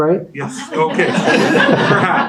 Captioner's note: everyone laughing